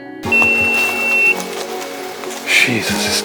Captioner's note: loud beep from goPro